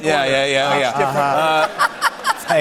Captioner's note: laughter